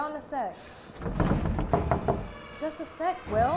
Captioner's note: door knocking and thudding